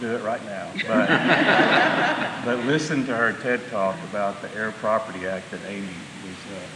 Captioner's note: laughter